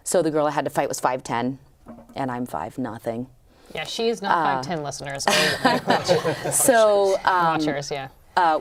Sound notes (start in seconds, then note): 5.2 laughter